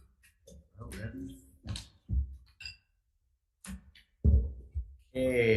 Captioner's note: members shuffling papers